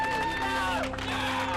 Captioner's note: team cheers